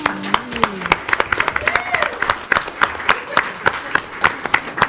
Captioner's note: audience applauding